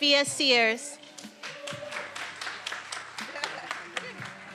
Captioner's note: attendees applauding